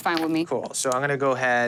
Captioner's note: dice rolling